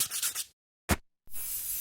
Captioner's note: paper scratches; tools whoosh; paint sprays